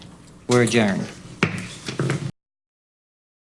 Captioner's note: gavel